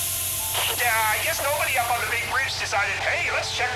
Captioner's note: voice of Engineer Joe on loudspeaker